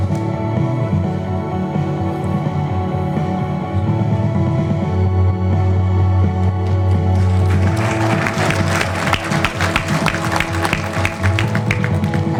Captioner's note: applause